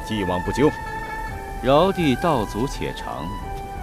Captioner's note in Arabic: مياو